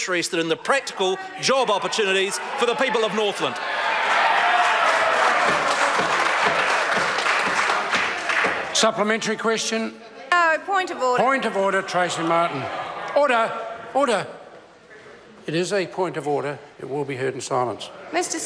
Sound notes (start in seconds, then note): 4.5 members applaud